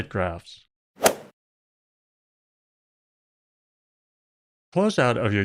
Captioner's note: golf ball hit sound